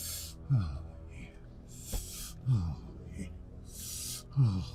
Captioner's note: moaning, sharp inhales